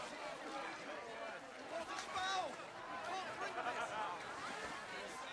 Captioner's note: crowd chattering